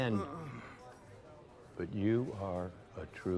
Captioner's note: Hitch moaning